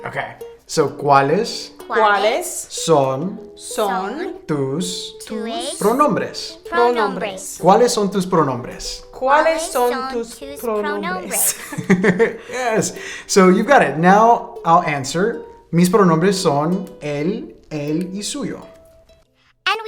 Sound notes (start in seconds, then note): 0.4 speaking in a foreign language; 9.6 laughing; 16.1 speaking in a foreign language